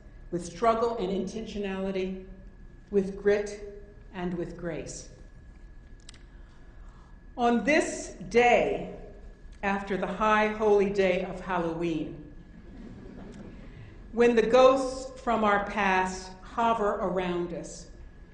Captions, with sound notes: With struggle and intentionality, with grit and with grace. On this day after the high holy day of Halloween, (audience laughing) when the ghosts from our past hover around us,